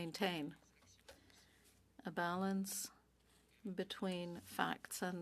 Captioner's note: speaking French